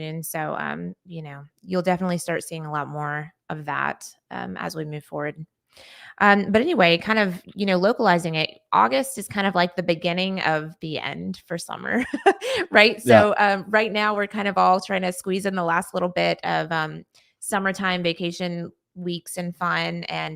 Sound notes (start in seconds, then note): 12.3 laughing